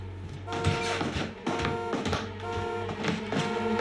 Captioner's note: tense eerie music; car alarm